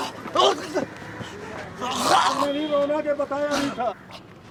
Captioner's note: teller gasping